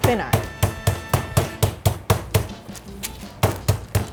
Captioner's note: pounding